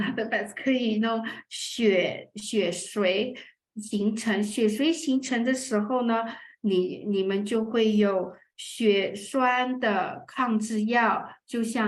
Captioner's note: speaking chinese